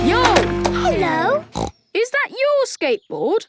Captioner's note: snorts